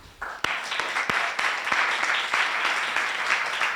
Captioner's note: applause